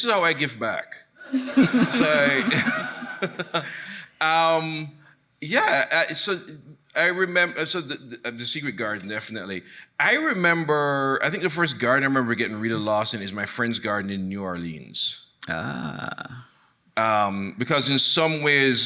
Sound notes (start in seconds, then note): 1.2 laughs; 1.3 chuckling; 1.3 audience laughing